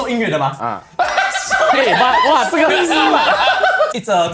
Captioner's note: laughs